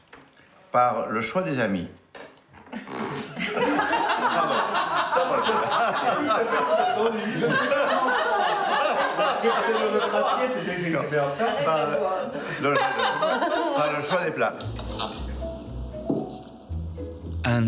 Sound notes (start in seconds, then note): 3.4 guests laughing; 7.7 speaking in foreign language; 14.6 upbeat music